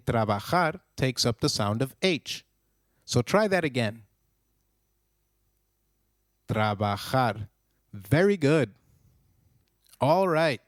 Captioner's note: long pause